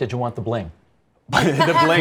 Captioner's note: laughing